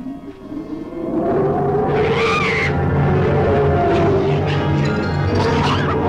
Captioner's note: small Dove screaming